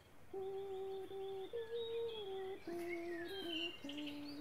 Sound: faint humming

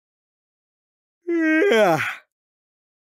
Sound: yawning

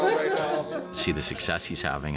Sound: players Laughing

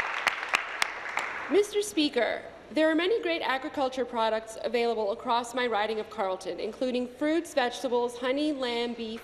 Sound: applause

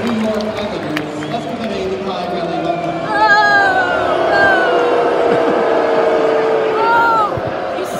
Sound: New York Islanders being booed

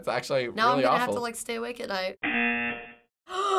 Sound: buzzer

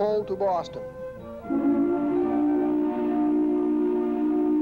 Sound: horn blowing

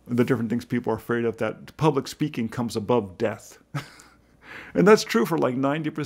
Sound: laughs

